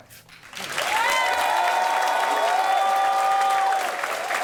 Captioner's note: applause